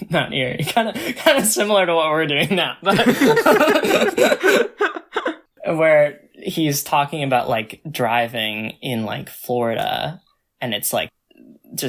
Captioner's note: both laugh